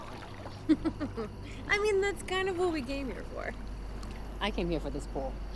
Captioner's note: laughs